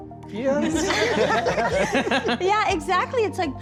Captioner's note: all laughing